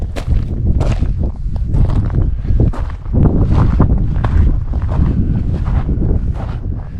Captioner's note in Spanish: viento, pasos